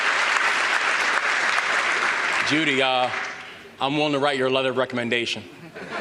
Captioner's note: applause